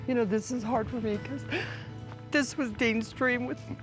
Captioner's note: says tearfully